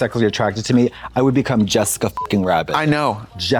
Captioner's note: beep